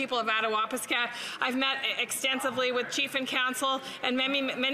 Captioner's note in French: voix de l'interprète